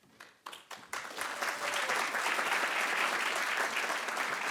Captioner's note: attendees applauding